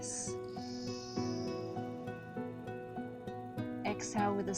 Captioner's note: inhales deeply